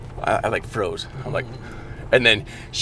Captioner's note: gasps